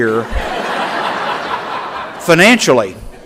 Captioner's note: laughter